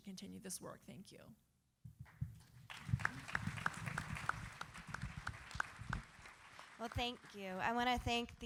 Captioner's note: applause